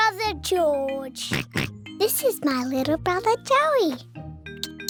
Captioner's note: oinks